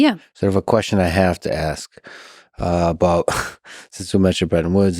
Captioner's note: chuckles